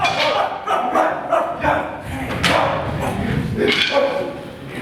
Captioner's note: dogs barking